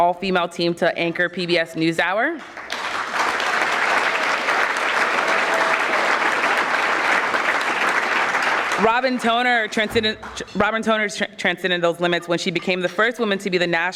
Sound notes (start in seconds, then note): 2.3 audience clapping